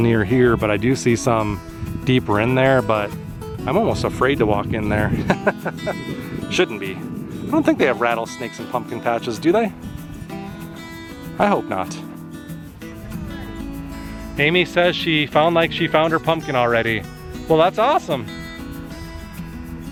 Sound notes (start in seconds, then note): 5.1 laughter